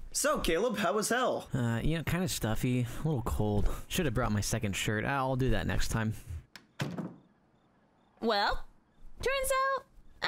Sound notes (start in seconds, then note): 6.5 door closes